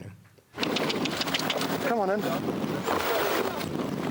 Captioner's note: clicks tongue